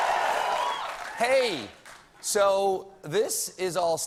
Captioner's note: cheers and applause